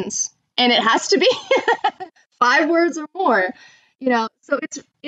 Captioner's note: laughs